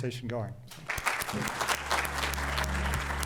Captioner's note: crowd and panelists applauding; soothing music